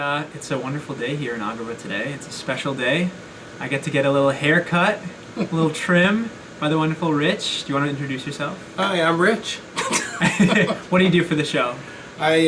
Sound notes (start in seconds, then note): 9.7 both giggles